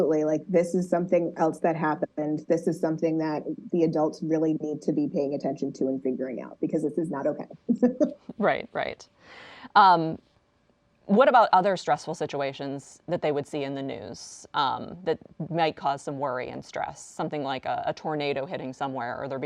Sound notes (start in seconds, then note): 7.9 laughs